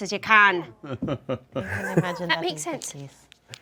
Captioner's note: group laughs